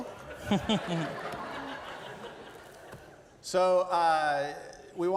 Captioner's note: laughter